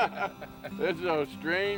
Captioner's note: laughter